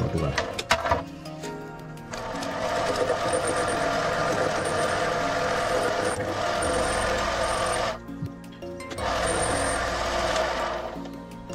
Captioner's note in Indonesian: suara mesin